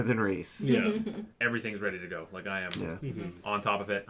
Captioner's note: snaps fingers